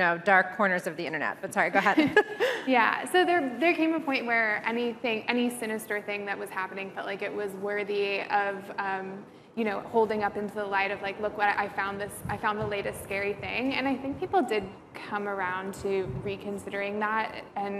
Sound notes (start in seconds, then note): 1.9 chuckles